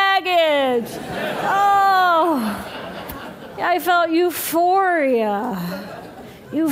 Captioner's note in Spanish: Risas